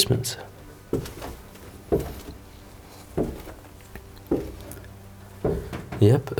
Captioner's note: footsteps tapping down the stairs